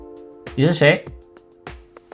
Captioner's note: character responds in English, likely from demo